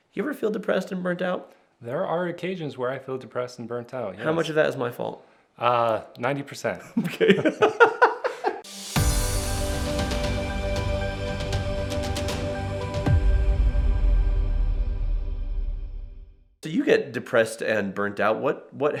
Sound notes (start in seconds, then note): 7.0 laughs; 8.6 inspiring music